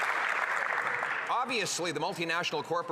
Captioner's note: some Applause